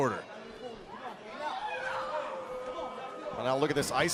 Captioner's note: crowd cheering